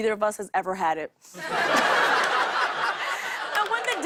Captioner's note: laughter